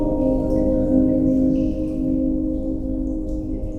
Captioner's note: slow and intense music; dripping